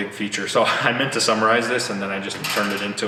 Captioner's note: chuckles